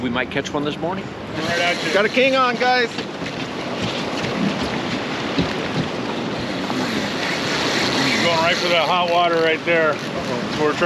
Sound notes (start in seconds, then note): 2.9 water lapping; 8.9 reel spinning